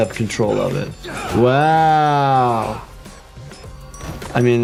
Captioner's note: bodies thumping